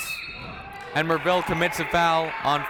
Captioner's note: whistle blows